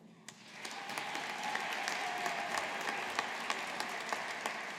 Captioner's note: audience applauding